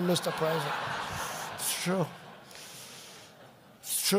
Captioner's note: laughter